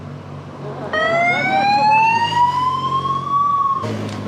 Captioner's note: siren